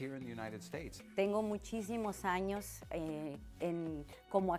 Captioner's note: speaking Spanish